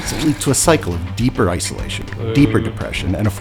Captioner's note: podcast Voice